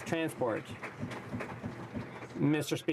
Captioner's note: some Applause